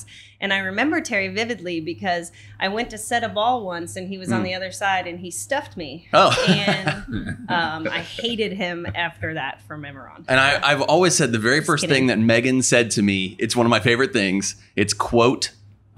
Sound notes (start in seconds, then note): 6.1 chuckles